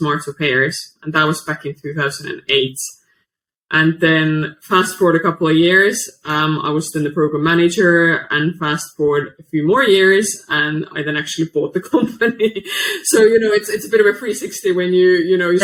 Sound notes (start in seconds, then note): 12.6 laughs